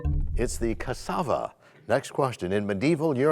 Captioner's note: bell chimes, time expires